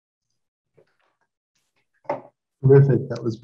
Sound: claps

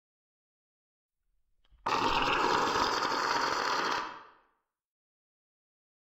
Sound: alien growl

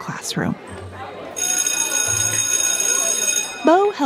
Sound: school bell rings

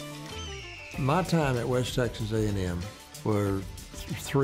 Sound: eagle screeches

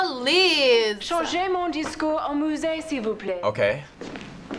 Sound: woman speaks French

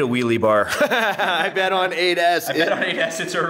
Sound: laughs

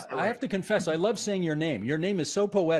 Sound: speaking in italian

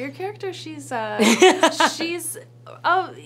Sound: Mishel laughs

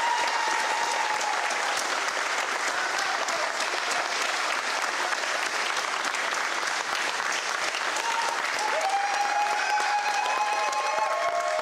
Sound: applause

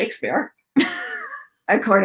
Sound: laughing

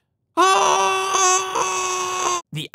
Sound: screaming from burning pain

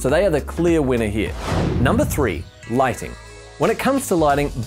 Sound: whooshing

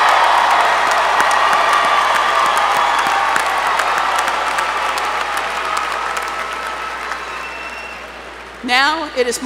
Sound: applause

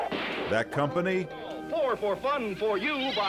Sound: gunshot

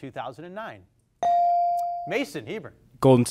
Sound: device dings

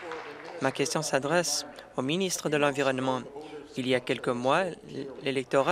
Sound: applause

